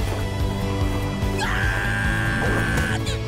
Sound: screaming

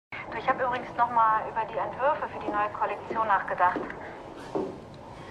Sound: Tanja on the phone

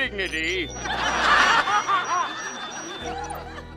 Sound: laughing

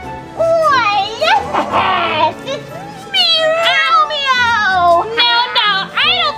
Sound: laughing

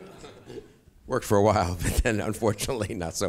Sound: audience laughs; laughs

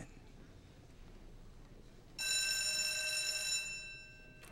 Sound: bell rings

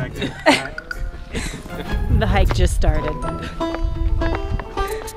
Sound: laughs

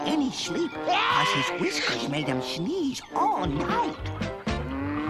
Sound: sneezes

